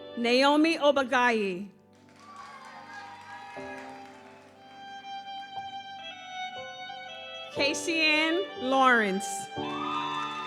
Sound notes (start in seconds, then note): 1.9 audience cheers; 2.3 gentle music continues; 9.6 audience cheers; 10.0 gentle music continues